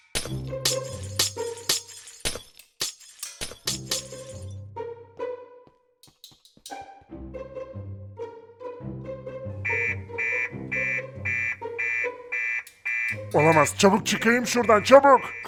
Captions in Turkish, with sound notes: (Cam kırma sesi) (Alarm sesi) Bu olamaz! Çabuk olmalıyım. Buradan çıkmam gerek.